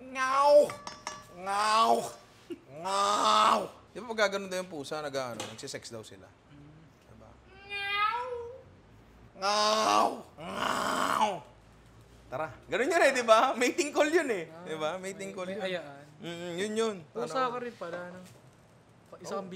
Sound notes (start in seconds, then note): 0.1 imitates a cat; 7.5 imitates a cat having rough sex; 7.5 imitates a cat having sex